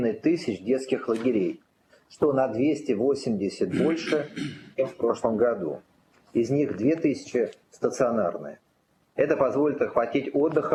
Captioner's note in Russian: откашливается